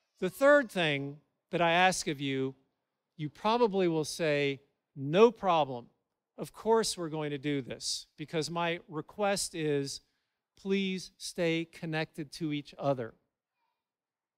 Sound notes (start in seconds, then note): none